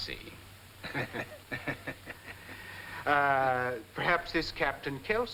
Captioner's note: both laughing